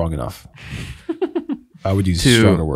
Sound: laughing

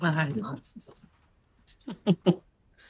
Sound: laughs

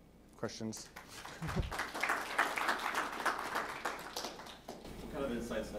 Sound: applauding

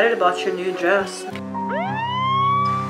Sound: siren

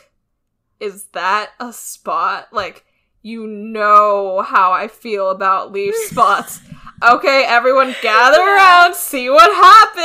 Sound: laughs

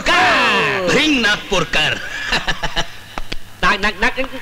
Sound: laughs

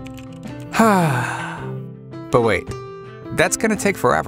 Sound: sigh

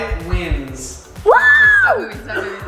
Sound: shouts

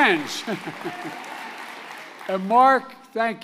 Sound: applause; laughs

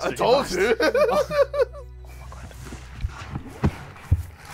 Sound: laughs

